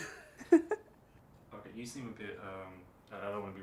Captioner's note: chuckles